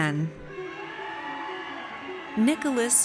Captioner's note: audience cheers